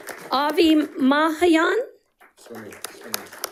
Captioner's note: audience applauding; audience applauding